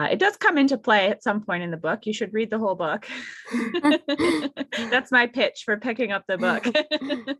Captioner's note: laugh